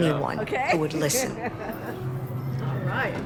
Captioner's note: laughs